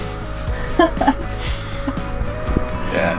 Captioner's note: laughs